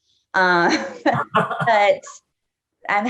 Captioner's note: laughing